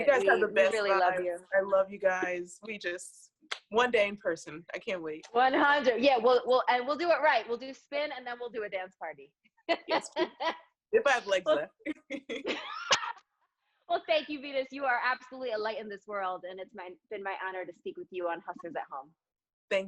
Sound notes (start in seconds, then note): 9.7 laughs; 11.9 laughs